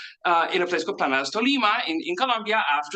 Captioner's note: speaks in Spanish